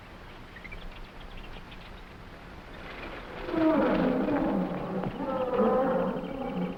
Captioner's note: animals chattering; gorillas groaning